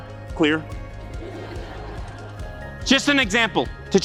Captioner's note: crowd laugh